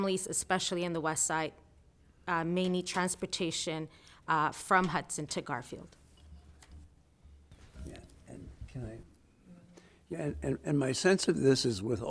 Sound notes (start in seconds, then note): 8.8 speaking faintly